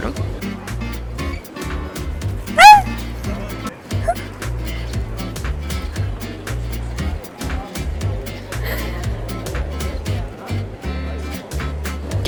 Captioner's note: scream